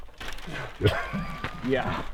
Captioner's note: laughing